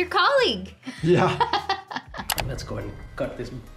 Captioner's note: laughs